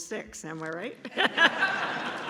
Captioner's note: laughs; laughter